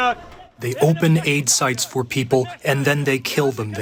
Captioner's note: through translator